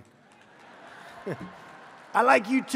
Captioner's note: laughter